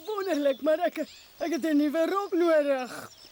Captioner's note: grunts